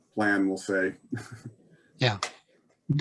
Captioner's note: laughs lightly